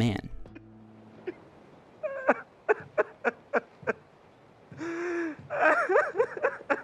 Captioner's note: crying